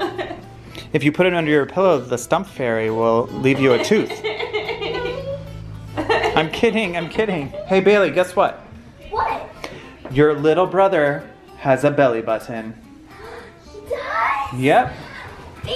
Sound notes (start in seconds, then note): 0.0 laughing; 3.4 laughing; 13.1 gasping